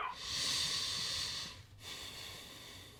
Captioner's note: sighs